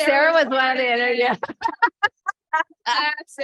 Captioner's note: laughter